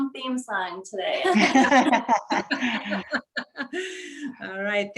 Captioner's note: group laughs